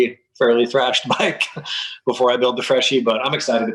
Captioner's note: laughs